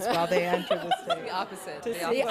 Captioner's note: laughter